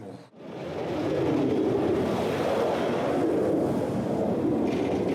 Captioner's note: planes roar